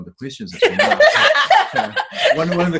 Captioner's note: laughter